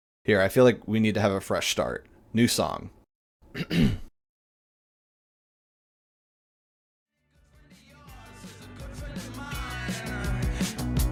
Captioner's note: ahem